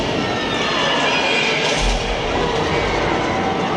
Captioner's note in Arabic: صراخ الديناصورات; ناس يصرخون